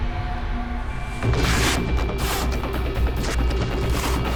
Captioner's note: frantic music; tape ripping